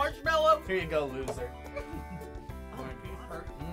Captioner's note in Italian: ridacchia